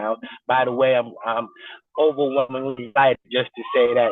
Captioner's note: distorted recording